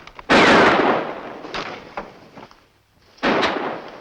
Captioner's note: gun firing; gun firing